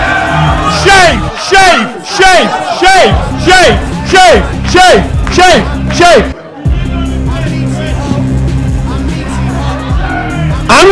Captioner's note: chanting